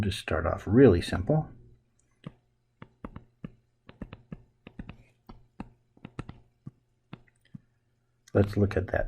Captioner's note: writing Sounds